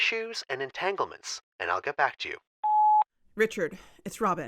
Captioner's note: beep